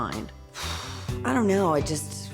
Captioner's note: sigh